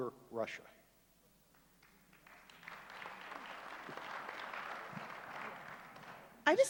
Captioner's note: applause